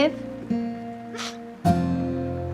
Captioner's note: Vivian crying